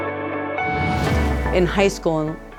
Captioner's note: air whooshing